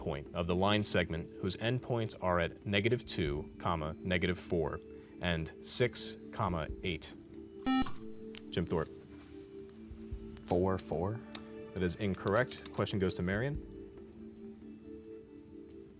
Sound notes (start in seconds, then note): 7.6 beep